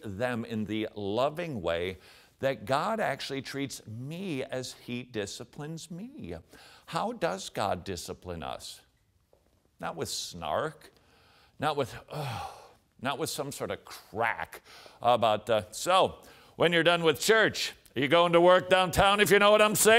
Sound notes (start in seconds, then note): 12.1 sigh